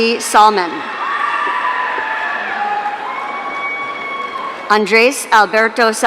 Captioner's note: audience cheering